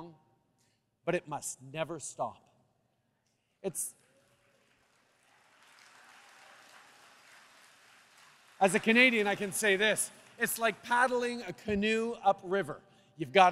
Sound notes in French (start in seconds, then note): 4.0 Applaudissements